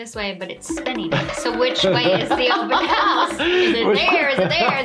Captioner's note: laughs